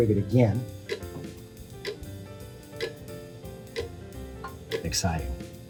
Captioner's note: clock ticking SFX